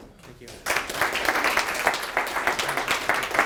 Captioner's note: applauding